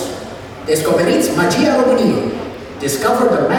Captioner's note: Romanian language